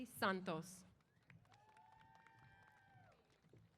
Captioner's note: applause & Cheers